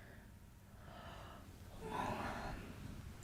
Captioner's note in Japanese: あくび